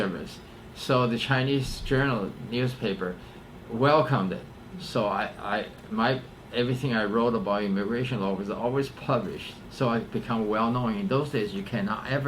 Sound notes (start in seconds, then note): none